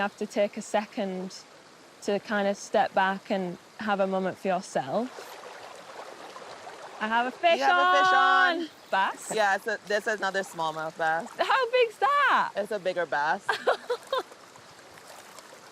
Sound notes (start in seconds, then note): 5.4 sound of water; 13.4 laughter